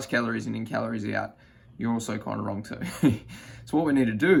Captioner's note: chuckles